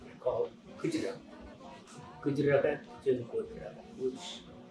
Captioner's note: non-english speech